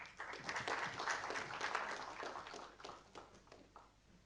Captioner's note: audience applauding